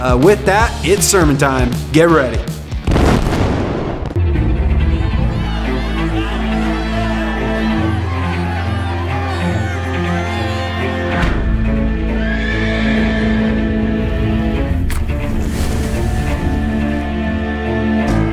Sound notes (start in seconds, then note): 4.6 gentle instrumental music; 12.2 horse neighing; 15.2 suspenseful music